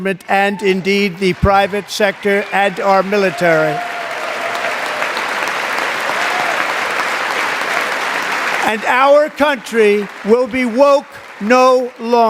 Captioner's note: applause